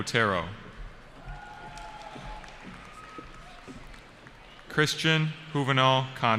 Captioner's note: cheering